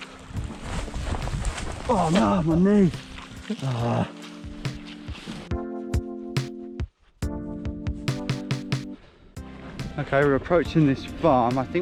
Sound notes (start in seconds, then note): 3.4 groans